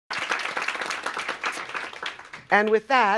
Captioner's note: applause